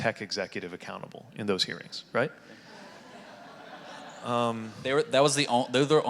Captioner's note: audience laughing